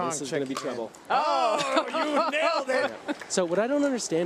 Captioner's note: laughs